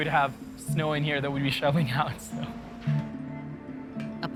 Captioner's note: chuckling